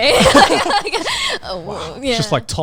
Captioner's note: everyone laughing